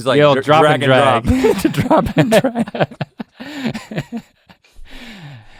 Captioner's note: both laughing; laughing